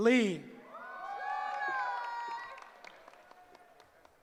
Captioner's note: cheering